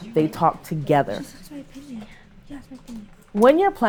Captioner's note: students conversing